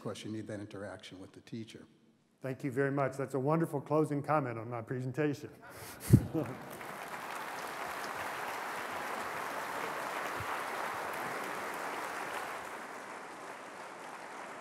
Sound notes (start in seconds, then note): 6.0 applause; 6.1 laughter